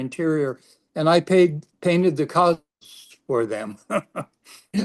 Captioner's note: laughs